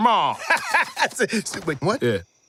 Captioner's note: laughs